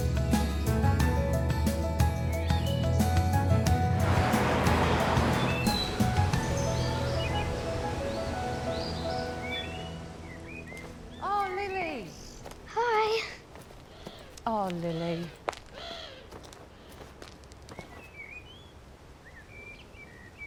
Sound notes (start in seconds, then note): 0.2 upbeat music continues; 5.7 birds chirping